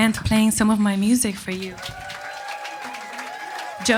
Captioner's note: audience applauding and cheering